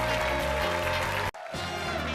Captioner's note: upbeat jazz music continues; audience clapping and cheering